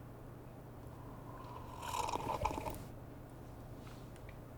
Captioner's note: gulps